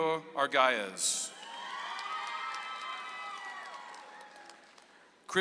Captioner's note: audience applauds